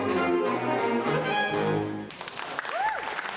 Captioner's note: applause